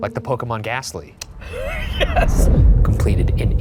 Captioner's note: laughing